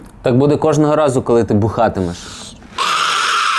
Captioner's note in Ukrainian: Голум кричить